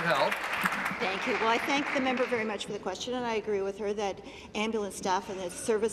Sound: applause

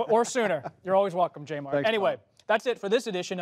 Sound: laughter

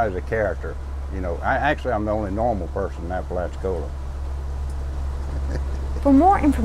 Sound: laughs

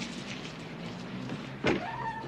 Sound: door closes

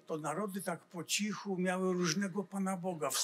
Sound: foreign language

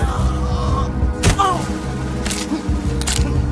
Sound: man grunting

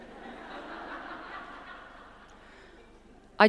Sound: audience laughs

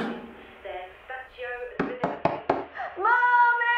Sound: the knocking gets louder

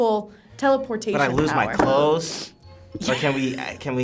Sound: laughs

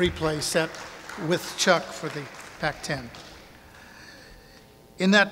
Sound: audience applauding

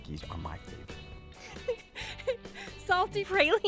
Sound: laughing

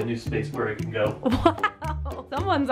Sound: laughing

